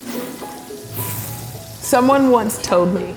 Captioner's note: sizzling